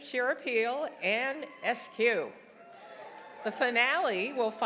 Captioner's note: audience applauding; audience cheering